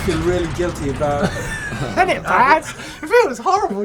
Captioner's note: all chuckle